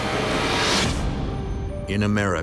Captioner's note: suspenseful music; swooshing